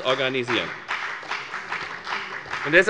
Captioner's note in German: Beifall bei der FDP und bei Abgeordneten der CDU